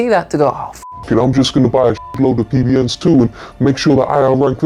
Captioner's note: beep